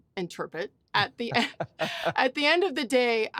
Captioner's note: laughs